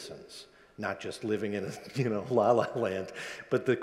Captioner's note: laughs